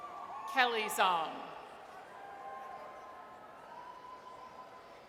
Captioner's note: audience cheers; audience cheers